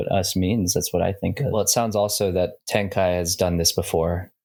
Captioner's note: none